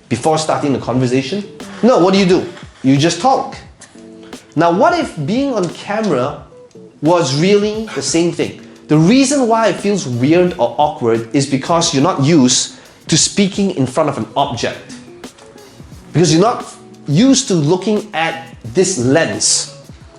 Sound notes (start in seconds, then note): none